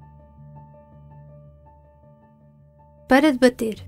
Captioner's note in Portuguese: Piano; Voz feminina